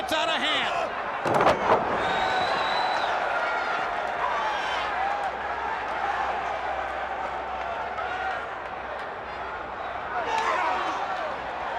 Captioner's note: crowd cheering